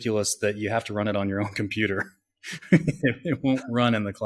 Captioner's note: laughs